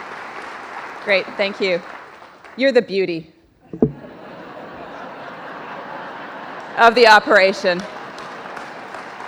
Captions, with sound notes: - Great, thank you. You're the beauty. (audience laughs) Of the operation.